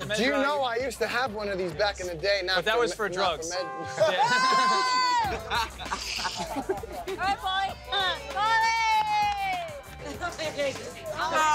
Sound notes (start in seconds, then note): 3.7 laugh; 9.5 upbeat music